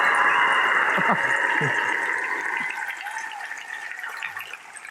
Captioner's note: laughter